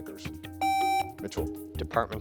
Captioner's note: contestant beeping